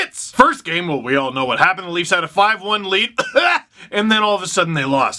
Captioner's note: cough